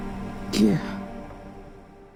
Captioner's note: voiceover